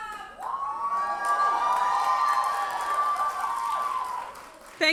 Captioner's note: audience cheers and applauds